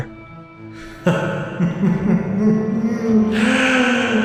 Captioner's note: Robotnik chuckles